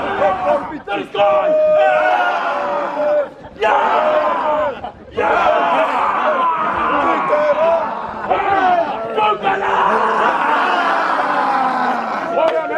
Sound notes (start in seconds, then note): 1.3 group continues cheering; 10.0 presenter shouting